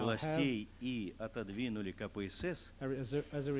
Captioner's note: non-english speech